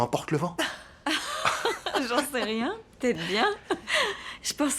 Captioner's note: laughs